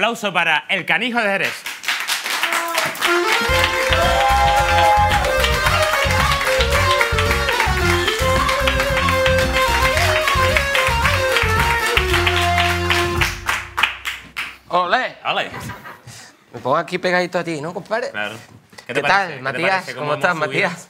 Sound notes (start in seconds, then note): 2.5 applause